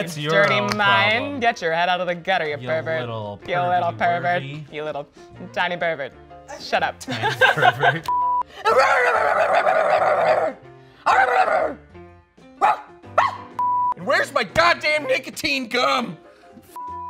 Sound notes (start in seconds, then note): 8.6 laughs; 8.7 barking